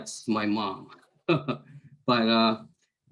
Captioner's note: chuckles